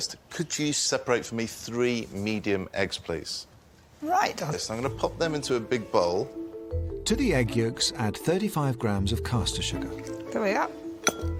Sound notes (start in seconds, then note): none